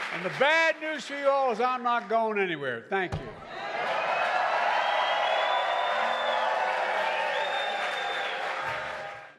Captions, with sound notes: And the bad news for you all is I’m not going anywhere. Thank you. (Applause.)